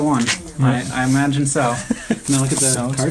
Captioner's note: laughs